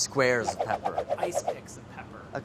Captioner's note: rapid whooshing